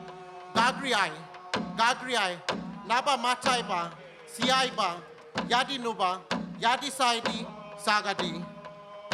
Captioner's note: speaks in language